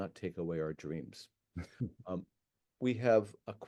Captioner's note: chuckles